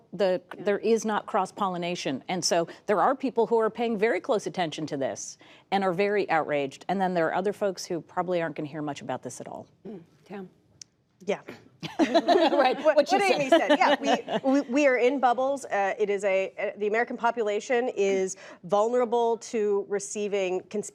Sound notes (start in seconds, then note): 14.1 laughter